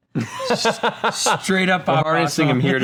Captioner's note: laughs